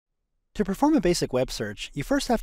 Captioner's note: voiceover